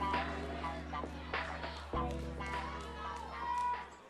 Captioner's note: crowd chatter